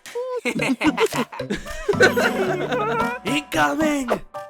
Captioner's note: cabby and silver spoon laugh; test tube and paintbrush laugh; yin-yang and goo laugh